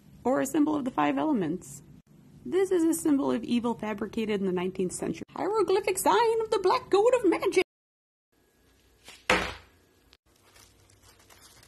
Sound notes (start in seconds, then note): 9.2 smack